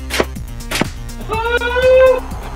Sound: slingshot firing

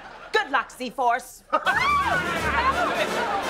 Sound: laughing

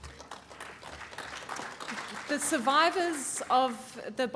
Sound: applause

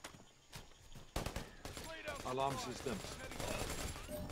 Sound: guns firing

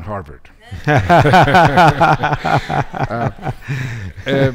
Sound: all laughing

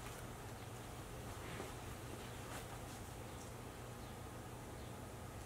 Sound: soft footsteps

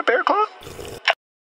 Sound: slurp

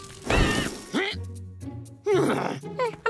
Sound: grunting expressively

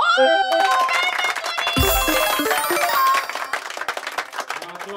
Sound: applause

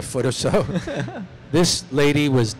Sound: laughter

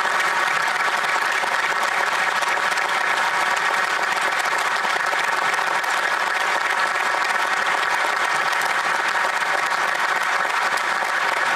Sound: applause

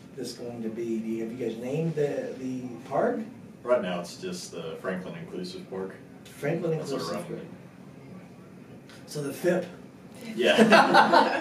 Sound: laughter

